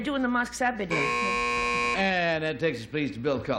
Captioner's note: buzzer